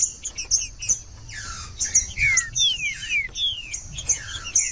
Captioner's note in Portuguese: trinca ferro cantando